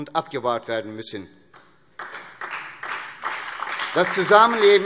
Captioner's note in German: Beifall SPD und DIE LINKE